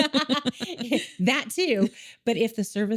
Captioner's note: laughing